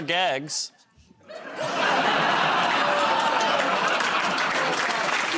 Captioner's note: laughter; applause